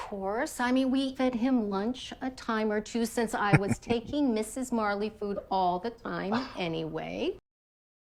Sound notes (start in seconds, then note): 3.4 chuckling